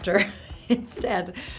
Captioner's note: laughing